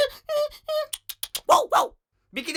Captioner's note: imitating dog